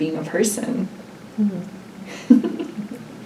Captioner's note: laughs